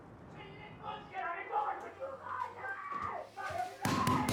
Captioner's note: people yelling next door